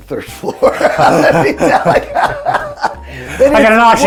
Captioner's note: laughing